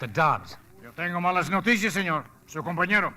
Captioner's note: speaking Spanish